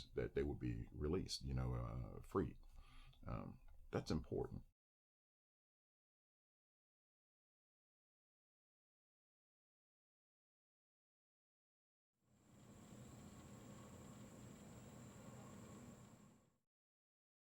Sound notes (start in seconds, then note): 12.8 mechanical whirring